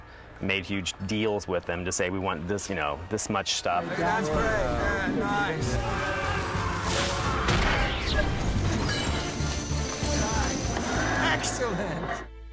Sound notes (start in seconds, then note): 5.8 shouting